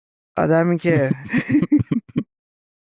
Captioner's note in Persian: خنده